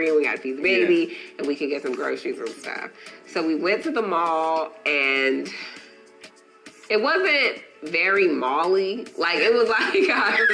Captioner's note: sigh; laughing